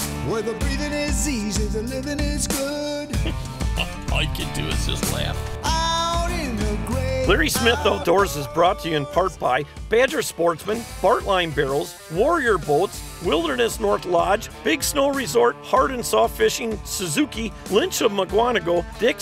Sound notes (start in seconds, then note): 3.2 laughing; 4.7 voiceover